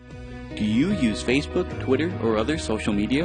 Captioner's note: voiceover